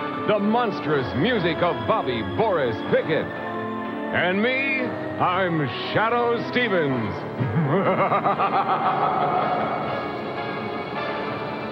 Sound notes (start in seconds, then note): 7.4 laughs evilly